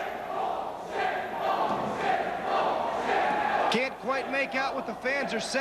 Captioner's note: crowd cheering